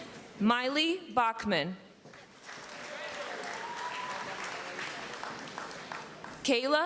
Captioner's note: applause and cheering